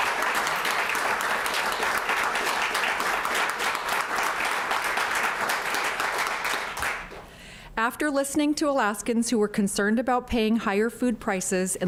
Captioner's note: applause